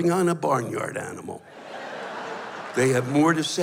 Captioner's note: laughter